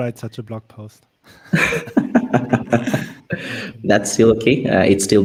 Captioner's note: group laughs